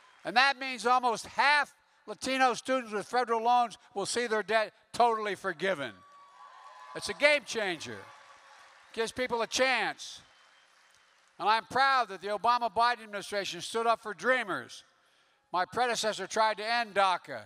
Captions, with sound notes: and that means almost half Latino students with federal loans will see their debt totally forgiven. (Applause.) That's a gamechanger. It gives people a chance. And I'm proud that the Obama-Biden administration stood up for DREAMers. My predecessor tried to end DACA,